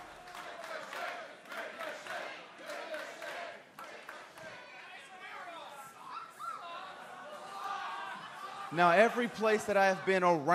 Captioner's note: crowd cheering